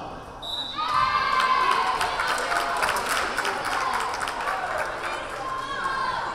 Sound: whistle blaring; crowd cheering

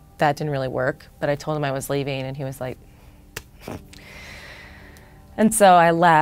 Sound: scoffs

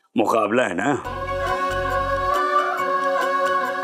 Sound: joyful vocalising

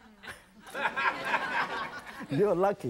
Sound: audience laughing

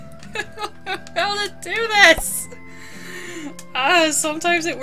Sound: laughing

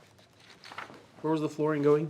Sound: paper crackling

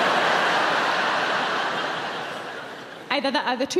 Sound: audience laughing

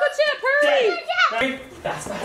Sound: squeals

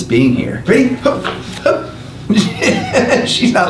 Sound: laughs

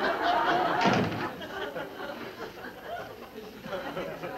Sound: door closes

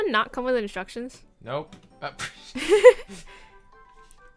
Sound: laughs

